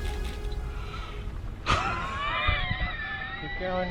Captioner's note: deep breath, exhale